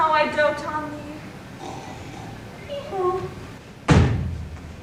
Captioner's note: Bottom snores